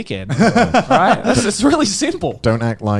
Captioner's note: laughs